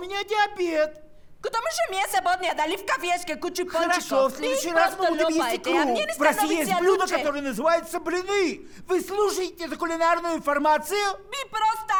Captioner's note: discussing in Russian